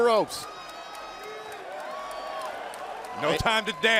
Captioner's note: crowd cheering